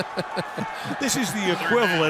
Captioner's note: laughter